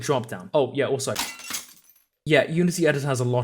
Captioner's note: glass shattering